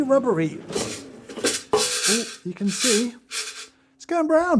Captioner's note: beans rattling